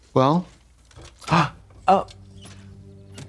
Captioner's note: blonde Women gasp